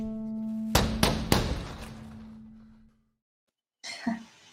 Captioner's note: poet pounding on door